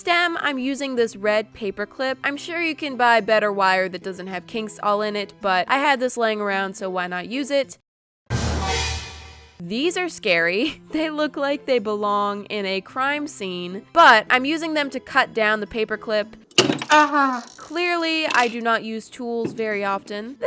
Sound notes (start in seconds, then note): 8.3 suspenseful music; 16.5 glass? breaking noise